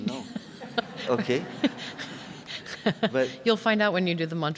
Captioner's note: audience laughing